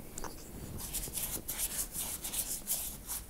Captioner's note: none